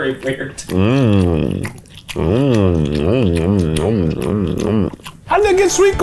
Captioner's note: smacking lips